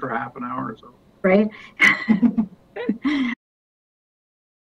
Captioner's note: chuckles